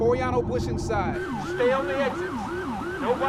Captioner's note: siren wailing